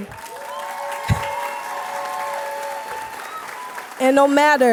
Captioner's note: applause